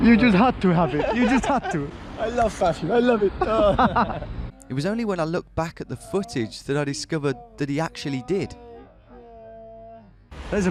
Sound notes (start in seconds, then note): 2.2 laughing; 8.7 video audio playing in slow-motion